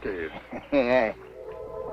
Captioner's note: both laughing; somber music